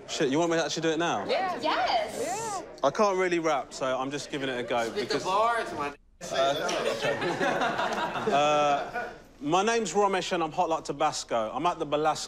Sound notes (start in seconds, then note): 6.6 laughter